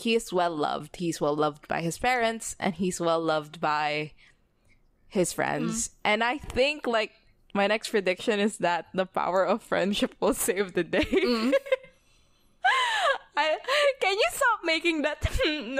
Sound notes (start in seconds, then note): 8.7 laughs